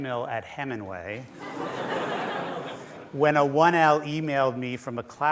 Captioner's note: laughter